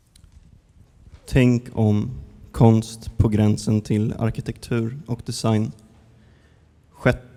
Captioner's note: speaker speaking in a foreign language